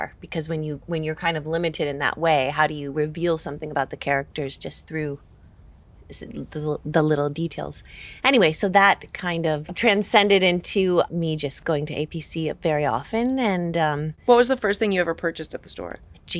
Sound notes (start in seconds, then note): none